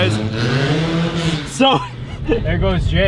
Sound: engine revving; laughs

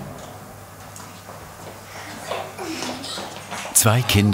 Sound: child laughter

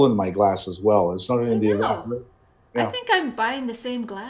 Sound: breaking up

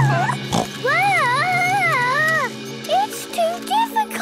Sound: children giggling; snorts

